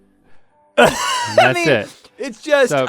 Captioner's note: laughs